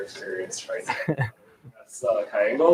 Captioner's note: laughs